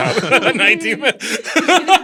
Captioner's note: laughter